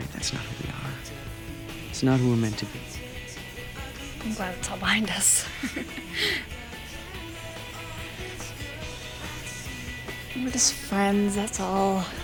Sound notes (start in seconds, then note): 5.2 laughs